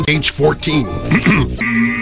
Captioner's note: clears throat